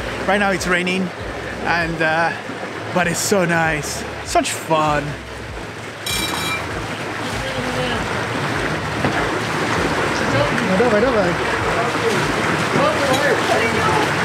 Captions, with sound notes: Right now it's raining, but it's so nice. Such fun! (grinding noise)